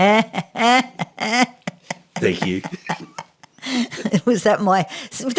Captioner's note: laughing